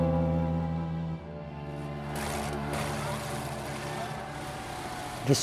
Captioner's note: crowd shouting